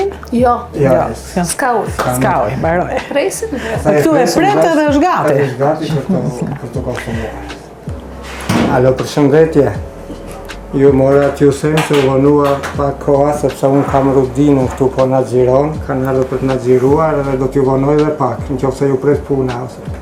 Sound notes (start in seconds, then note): 8.5 speaks on the phone